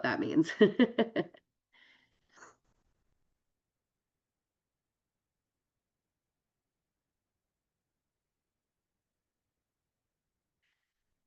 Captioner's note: laughs